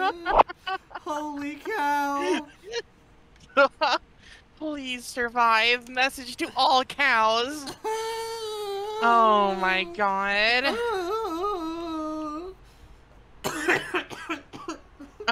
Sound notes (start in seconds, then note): 0.2 pop but backwards; 10.5 continued wailing; 13.4 coughing fit 2